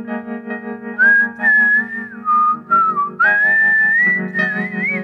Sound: whistling

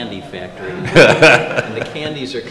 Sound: laughter

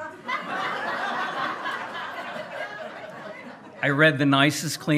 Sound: hearty laughing

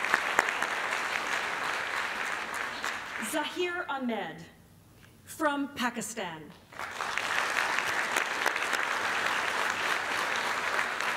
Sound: applause; applause

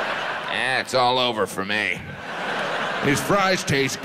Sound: audience laughs

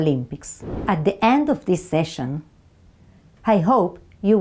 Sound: slide whooshes

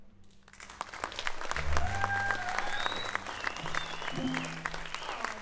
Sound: audience cheering and applauding

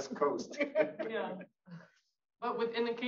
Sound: audience laughs

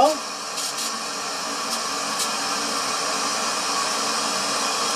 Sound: pipe hissing

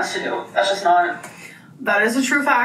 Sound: keyboard clicking

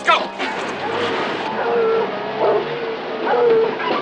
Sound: dog barking

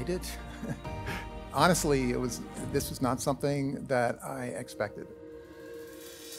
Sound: chuckles

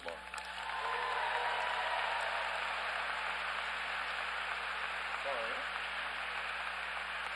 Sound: applause

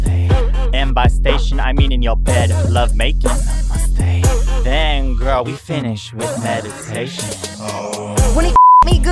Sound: ommmm

